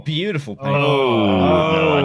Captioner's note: laughs